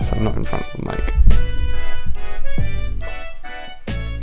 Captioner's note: mic moving noise